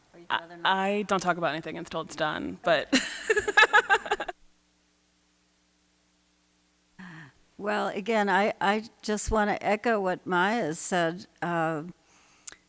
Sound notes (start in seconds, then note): 3.0 laughs